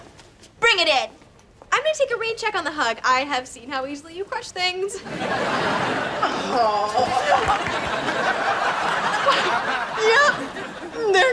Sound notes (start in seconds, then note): 5.0 laughs; 6.9 cracking sounds; 10.0 laughs